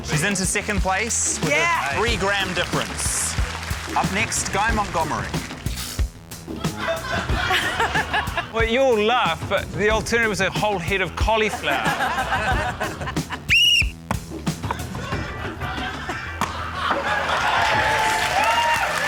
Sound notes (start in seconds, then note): 6.4 scoffs; 6.6 laughter; 11.5 laughter; 13.4 blows whistle; 16.6 laughter, applause